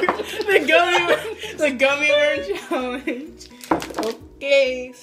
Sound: laughing

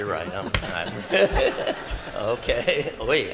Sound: laughter

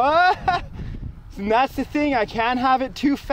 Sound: both laugh

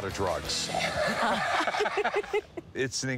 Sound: laughter

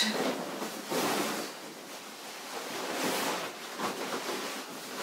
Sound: fabric rustles

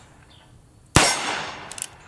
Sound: gun fires

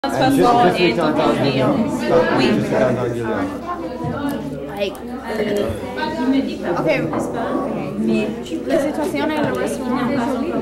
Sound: students speaking French

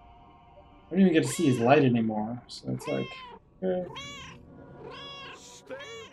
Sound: Hodge meowing

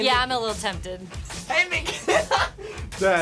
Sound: laughs

